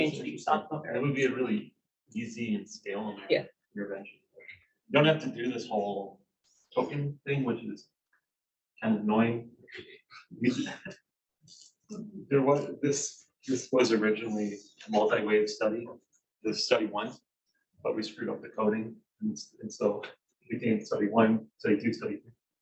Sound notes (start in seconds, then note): 10.4 chuckles